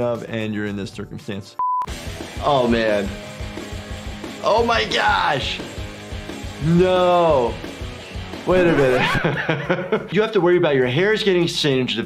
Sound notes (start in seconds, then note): 8.6 record screeching; 8.6 laughing